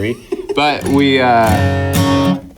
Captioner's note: laughs